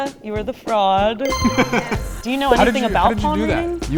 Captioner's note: ding